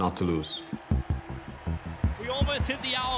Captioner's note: crowd cheering